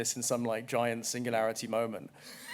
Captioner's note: laughter